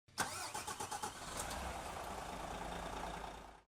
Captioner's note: engine starts